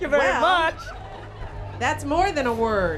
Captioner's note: laughter